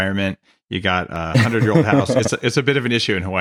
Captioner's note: laughs